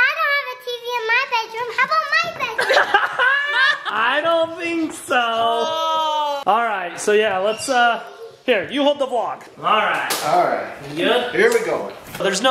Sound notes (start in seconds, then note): 2.5 laughing